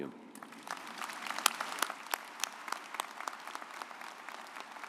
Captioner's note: audience applauds